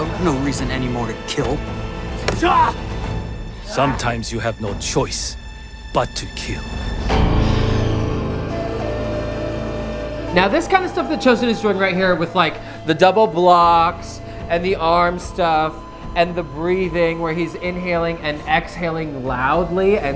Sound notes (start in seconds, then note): 2.1 yell; 7.6 intense music